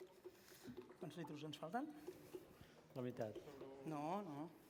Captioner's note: non-english speech